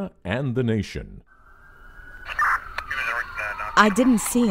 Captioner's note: sirens wailing